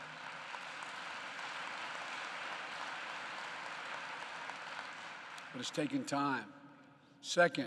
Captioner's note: applause